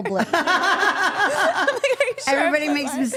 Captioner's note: all laughing